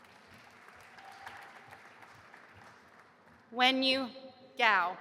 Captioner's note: audience applauding